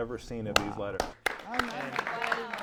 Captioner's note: applause